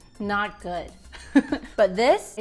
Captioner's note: laughs